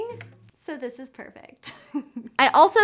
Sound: chuckles

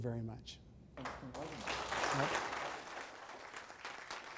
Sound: audience applause

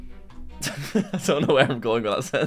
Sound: laughs

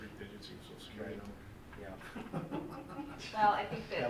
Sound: laughs

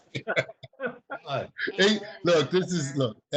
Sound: chuckling

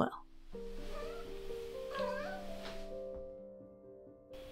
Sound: Soot mews off screen

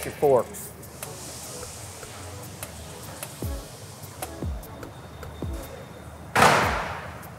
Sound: upbeat music playing; forklift whirring

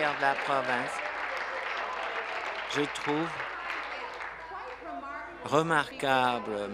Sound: applause

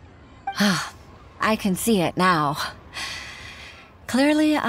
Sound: sigh

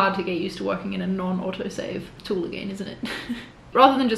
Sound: chuckles

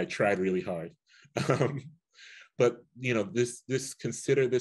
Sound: chuckles

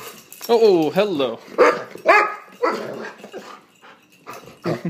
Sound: excited whines and barks

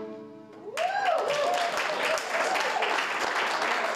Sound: cheering

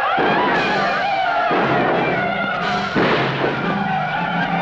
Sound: Angelica screaming; Yaqui shouting; gunshots blasting

